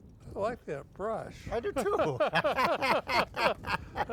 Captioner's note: both laughing